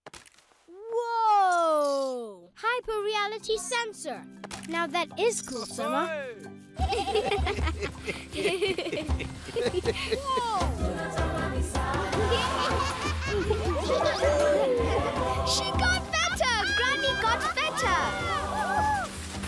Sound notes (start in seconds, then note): 6.8 laughing; 11.9 all laughing; 19.2 laughing